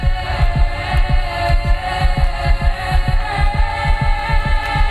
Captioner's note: loud heartbeat thudding; chanting swells